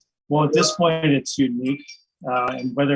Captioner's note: computer chimes